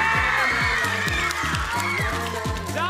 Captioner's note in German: Jubel, Applaus